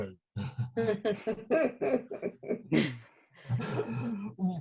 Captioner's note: chuckles